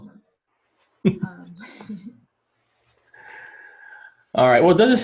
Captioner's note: both laugh